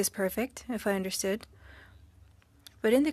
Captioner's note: speaking french